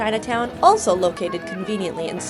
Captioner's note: shouting excitedly